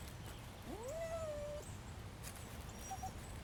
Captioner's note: dog whimpers